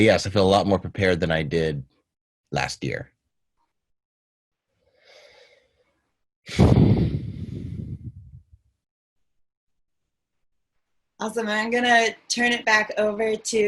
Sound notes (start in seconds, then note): 6.5 sighs